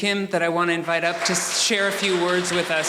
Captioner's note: audience applauding